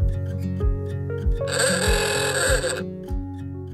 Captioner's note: alarm sound